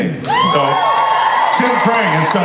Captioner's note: audience cheers